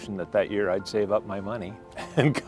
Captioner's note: laughing